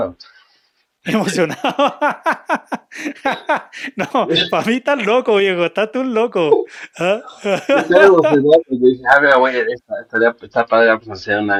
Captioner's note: laughs